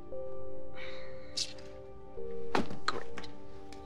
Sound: sighs

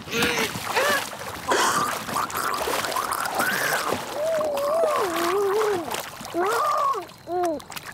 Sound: water splashing; mom gargling

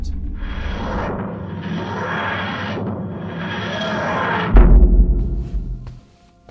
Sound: sfx: tardis landing; sfx: footsteps

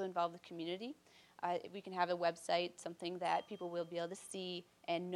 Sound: bell dinging

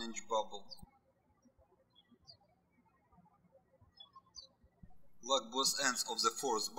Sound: birds chirping

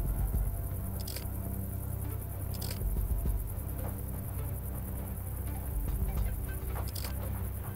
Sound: keys jingling; tense music; ignition clacking

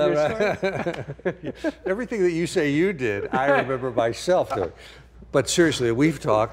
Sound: laughing

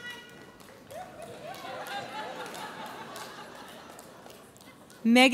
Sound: audience laughs

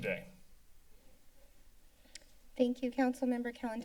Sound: silence

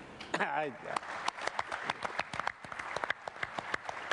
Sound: applause

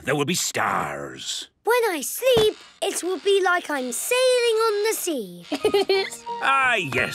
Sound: laughing

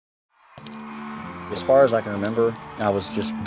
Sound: crowd screaming

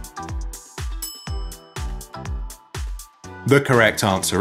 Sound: bell clinking

